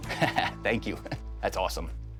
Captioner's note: laughing